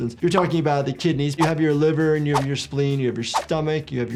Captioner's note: none